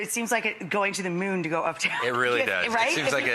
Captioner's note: laughs